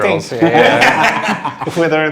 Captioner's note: laughing